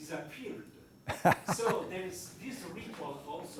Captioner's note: laughs